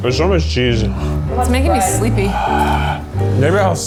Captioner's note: huffing out a breath